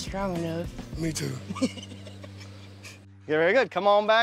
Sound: chuckles

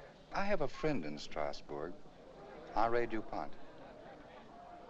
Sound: none

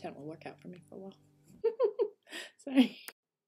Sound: little giggle

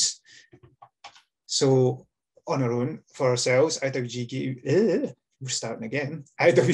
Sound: stumbles over words

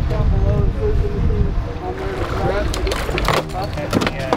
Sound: male Voice; background chatter

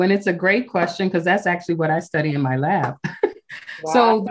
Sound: chuckles

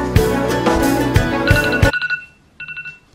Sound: radar sound effect

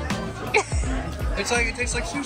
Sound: giggles

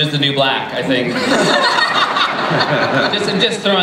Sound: laughter

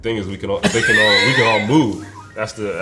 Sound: Spike laughs

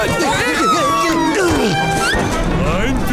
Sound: grunting

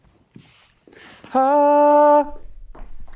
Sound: vocalizes

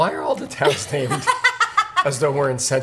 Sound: laughter

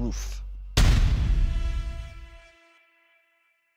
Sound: loud bang

